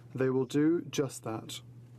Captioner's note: speaking French